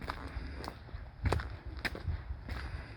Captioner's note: footsteps